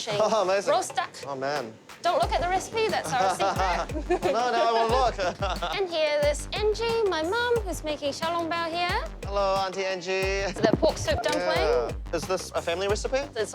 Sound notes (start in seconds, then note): 7.8 laughs